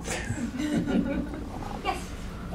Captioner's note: audience chuckling